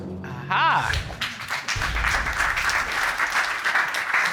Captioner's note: audience applauding